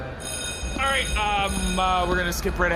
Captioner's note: sound stage bell